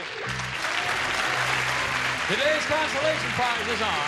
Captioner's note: applause